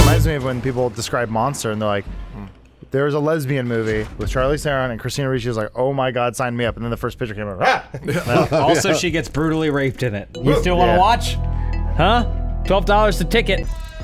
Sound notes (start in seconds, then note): 7.9 laughter